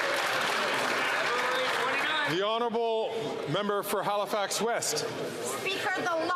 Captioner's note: some Applause